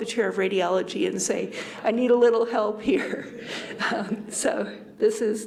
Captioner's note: chuckles